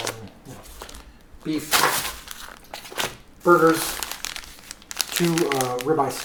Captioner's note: paper crinkles